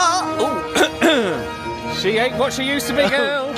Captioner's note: voice croaks; clears throat